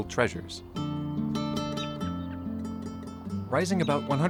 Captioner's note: birds chirping; gentle music